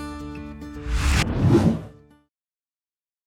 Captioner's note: air swooshes